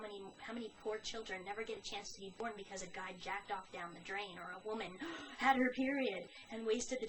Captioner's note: gasp